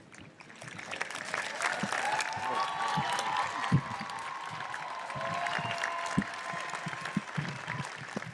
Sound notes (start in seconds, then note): 0.3 audience applauds and cheers